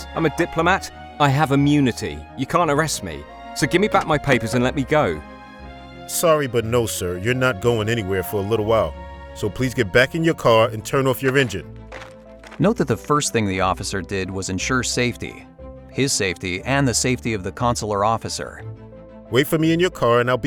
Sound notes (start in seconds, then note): 4.7 car door; 10.5 footsteps